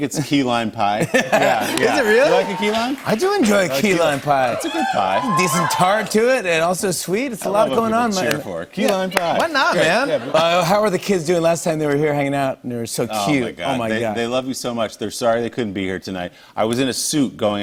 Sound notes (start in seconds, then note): 4.2 cheers and applause